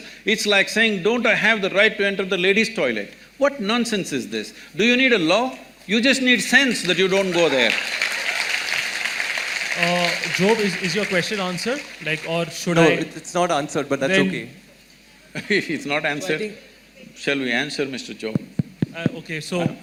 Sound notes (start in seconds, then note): 6.6 applause; 15.5 laughs